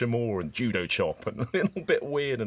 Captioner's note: laughs